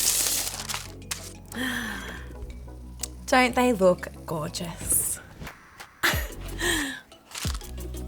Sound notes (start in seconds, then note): 1.5 gasping